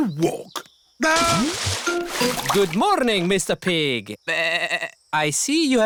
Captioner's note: bleats